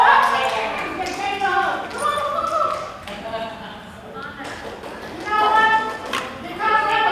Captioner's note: applause